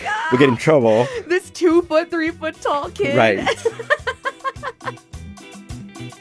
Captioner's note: laughter